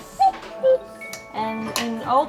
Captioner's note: cuckoo clock dings